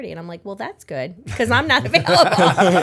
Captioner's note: laughter